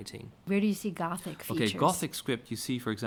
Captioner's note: voiceover